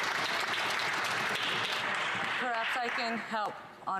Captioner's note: some Applause